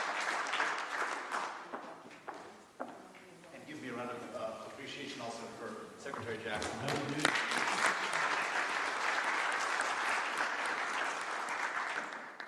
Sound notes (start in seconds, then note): 6.5 applause